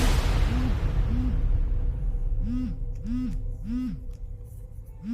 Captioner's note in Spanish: Vibra el celular